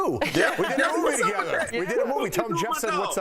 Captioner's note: laughter